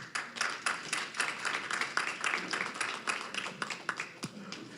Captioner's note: applause